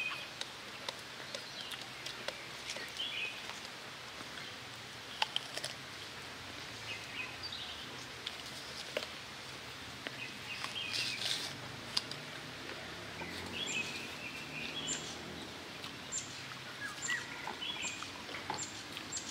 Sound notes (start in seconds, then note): 5.3 nature sound